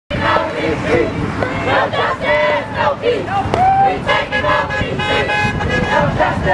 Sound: chanting in unison

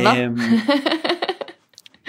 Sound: laughs

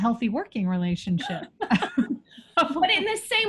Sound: laughing

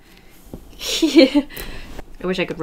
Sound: laughs

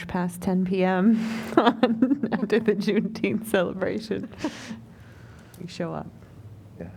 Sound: laughter

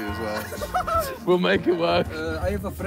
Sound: laughing

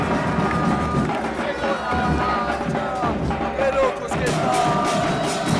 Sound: fans cheering

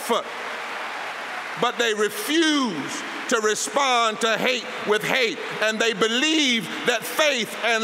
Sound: applause

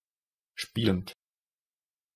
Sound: fast Pronunciation

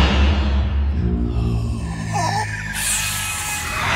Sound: demonic Voice

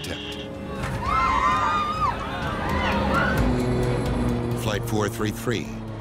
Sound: passengers yelling

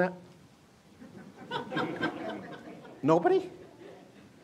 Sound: laughter

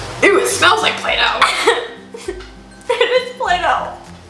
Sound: chuckles

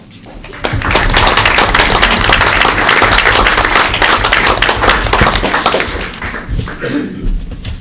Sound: applause

